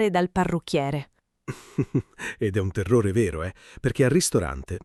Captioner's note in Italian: Haha